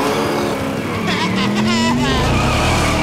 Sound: teasing laugh

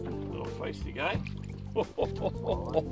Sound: laughs

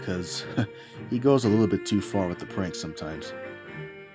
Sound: chuckles

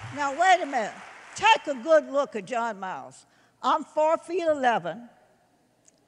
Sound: applause

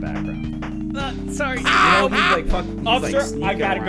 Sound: maniacal Cackling

